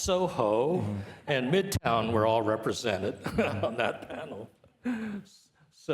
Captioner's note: chuckles